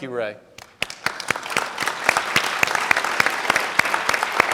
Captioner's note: audience clapping